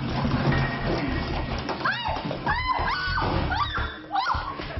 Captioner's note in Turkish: Çığlık atar